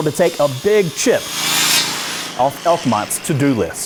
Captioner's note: circular saw buzzing